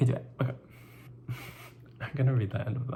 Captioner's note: laughs